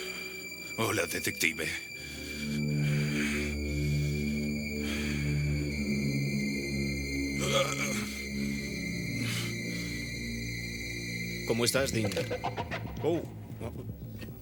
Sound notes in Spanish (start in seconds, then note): 2.5 música de suspense; 7.4 Dean gemendo